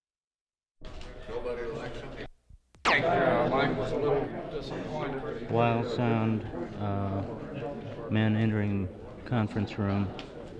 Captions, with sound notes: [background chatter] Wild sound. Men entering conference room.